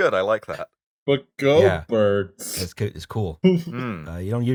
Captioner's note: confused voice